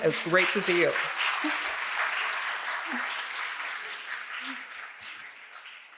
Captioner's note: audience applauding